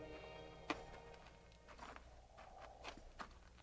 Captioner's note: footsteps crunching